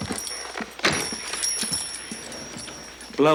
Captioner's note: door opens